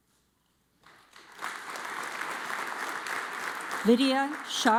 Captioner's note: audience applauds